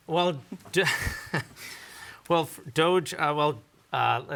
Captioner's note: chuckles